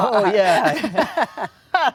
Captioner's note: laughs